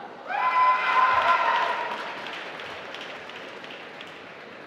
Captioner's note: applause